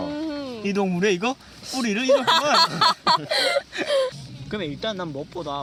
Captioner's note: north Korean dialect